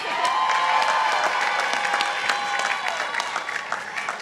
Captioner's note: participants applauding